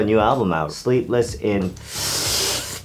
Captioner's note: hisses